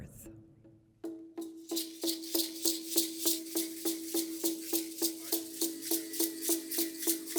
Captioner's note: drums pounding; rattles rattling